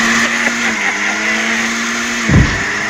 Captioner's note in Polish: śmiech Wojtasa